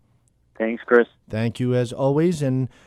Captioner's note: voiceover